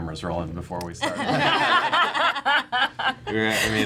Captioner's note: laughing